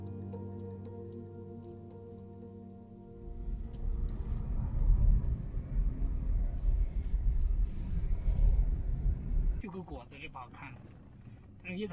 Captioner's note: speaking Chinese